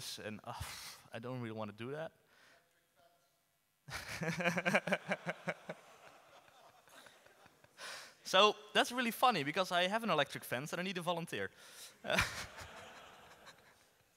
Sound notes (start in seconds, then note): 2.3 inaudible comment from audience, everyone laughs; 12.1 laughs